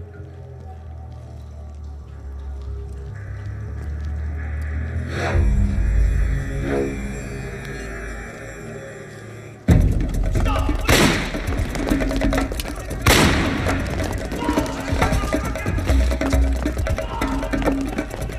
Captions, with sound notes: - Stop police! (gun firing) (suspenseful music) Halt! (suspenseful music)